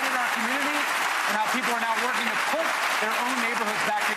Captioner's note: applause